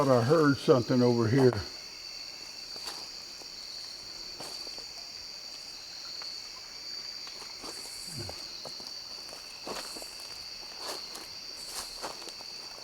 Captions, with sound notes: I thought I heard something over here. (crickets chirping)